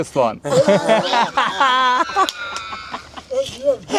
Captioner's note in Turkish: kahkaha